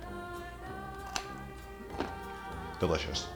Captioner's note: bites, crunches